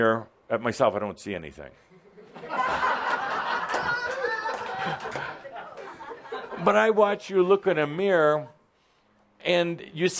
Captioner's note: laughter